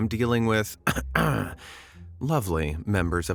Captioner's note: ahem